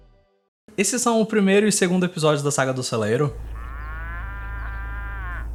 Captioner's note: muuu